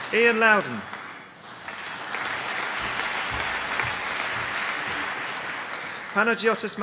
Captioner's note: applause